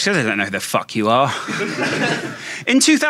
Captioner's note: audience laughing